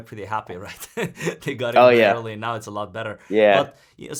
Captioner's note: laughs